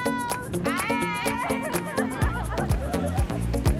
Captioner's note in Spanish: riendo